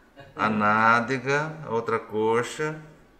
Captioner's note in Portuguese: risos